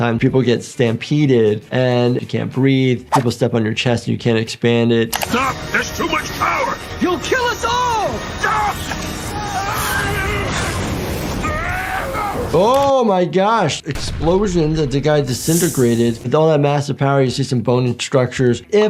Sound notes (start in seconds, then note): 8.6 Angstrom Levy yelling; 9.9 explosion erupting; 11.4 Mauler clone yelling